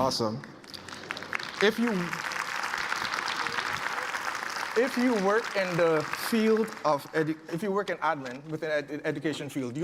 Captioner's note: applause